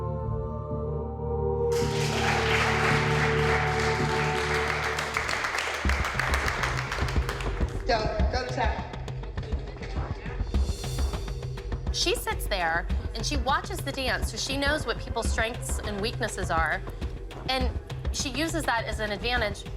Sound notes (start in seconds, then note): 1.7 applause